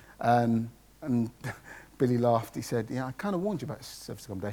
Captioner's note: laughs